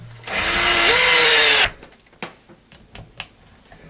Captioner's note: whirring